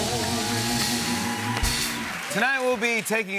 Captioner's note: cheer and applause